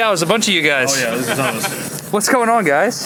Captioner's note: laughter